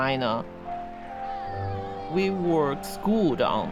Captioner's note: exclaiming